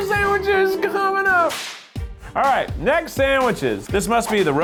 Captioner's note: whip cracks